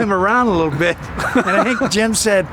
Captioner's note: laughing